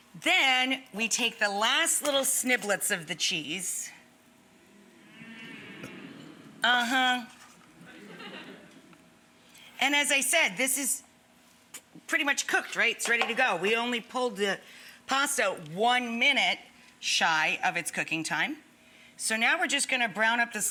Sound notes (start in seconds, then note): 4.6 audience gasps; 7.7 audience laughs